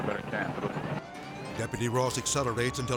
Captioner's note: sirens blaring